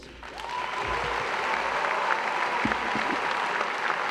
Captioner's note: applause